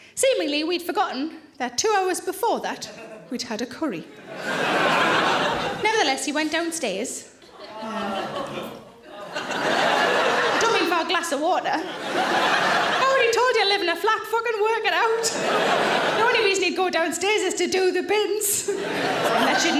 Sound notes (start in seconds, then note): 4.1 audience laughing loudly; 7.4 audience laughing loudly; 15.0 audience laughing loudly